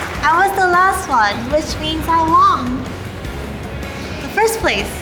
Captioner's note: applause